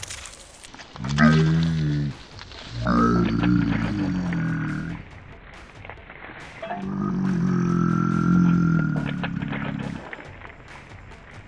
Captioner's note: squirting sounds; comedic slow motion “Nooo!”